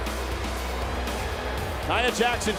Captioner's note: hip hop music continues; crowd boos